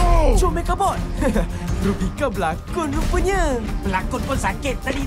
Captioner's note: chuckles